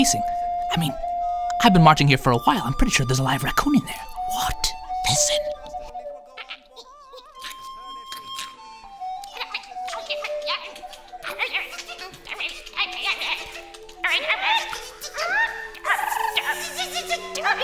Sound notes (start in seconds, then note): 6.4 snarling, skittering; 9.2 animal noises?